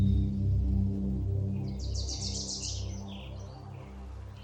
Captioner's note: birds chirping